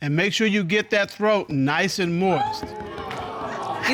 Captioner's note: audience exclaims